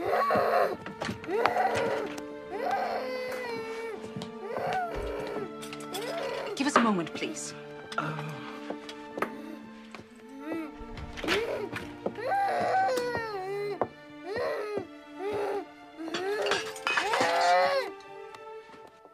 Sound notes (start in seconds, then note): 10.5 Helen Continues Moaning